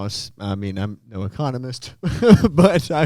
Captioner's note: laughs